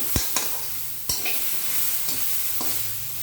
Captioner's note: frying